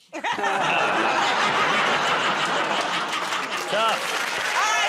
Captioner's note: laughter, groaning